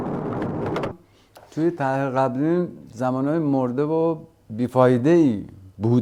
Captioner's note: speaking foreign language